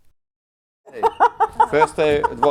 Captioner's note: laughing